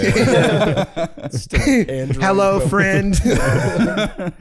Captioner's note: robotically